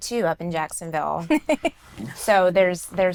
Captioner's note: laughs